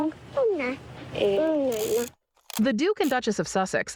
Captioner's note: shutter clicks